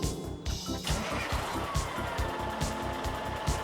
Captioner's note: engine starts